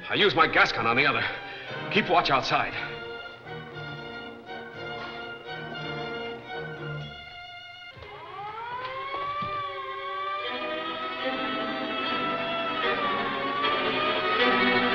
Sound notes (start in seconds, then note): 3.5 dramatic music; 8.9 sirens blaring; 10.9 dramatic music